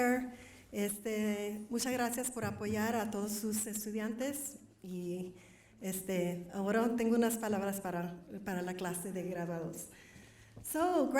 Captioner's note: foreign Language